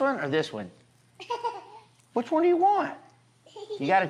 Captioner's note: giggles